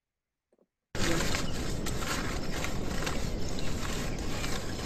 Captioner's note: wind whooshes